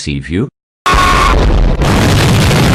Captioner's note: explosion